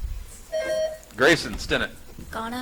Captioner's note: buzzer chimes